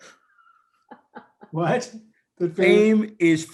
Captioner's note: laughter